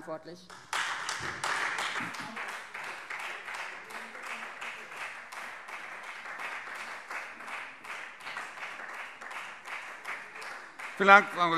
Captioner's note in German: Beifall Freie Demokraten